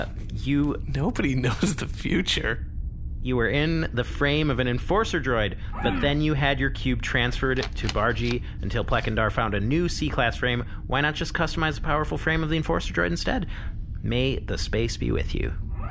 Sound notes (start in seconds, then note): 2.1 laughing